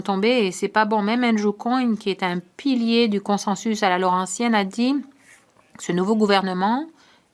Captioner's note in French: voix de l'interprète